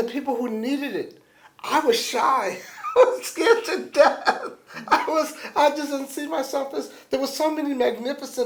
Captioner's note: laughs